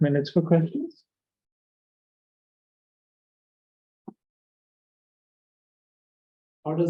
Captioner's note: silence